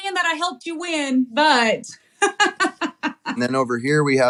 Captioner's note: laugh